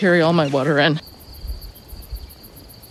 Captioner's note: crickets chirping